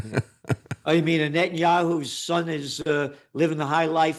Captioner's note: laughs